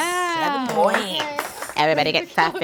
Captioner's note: softly clapping